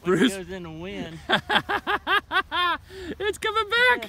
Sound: laughing hysterically!

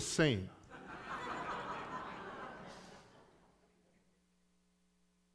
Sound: congregation laughing

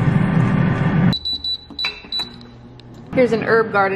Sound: air fryer beeps

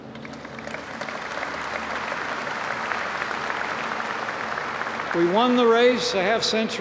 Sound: applause

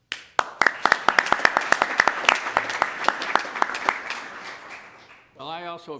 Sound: applause

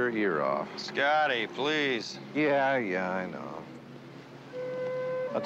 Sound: mechanism hums

